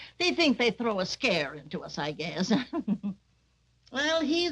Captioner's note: chuckles